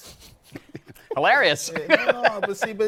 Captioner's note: laughs